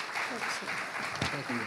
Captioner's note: audience applauding